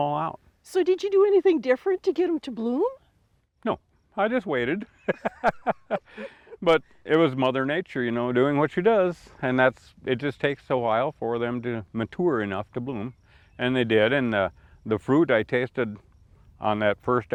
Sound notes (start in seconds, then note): 4.8 laugh